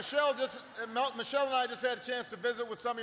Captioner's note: applause